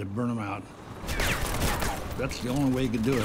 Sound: metal clanging from gunfire

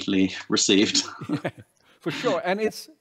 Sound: laughter

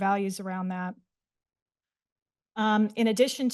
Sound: pause

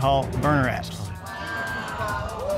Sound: audience exclaiming

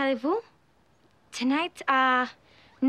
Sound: Fench accent

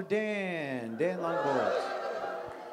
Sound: audience cheers

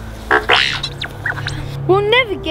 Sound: electronic beeps

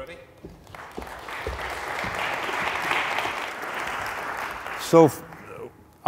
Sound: audience applauding

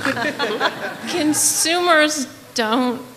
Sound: laughter

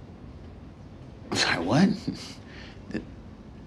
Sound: chuckles

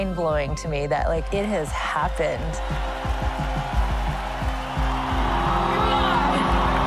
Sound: cheering and applause

